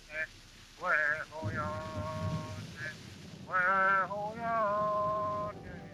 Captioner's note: recording playing; thunder rumbling